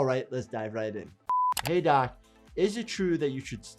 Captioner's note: keyboard keys clicking